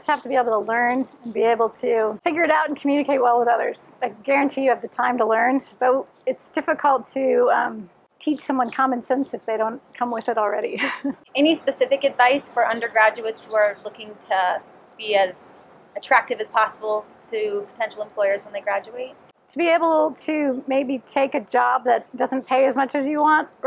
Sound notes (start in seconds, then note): 10.8 laughs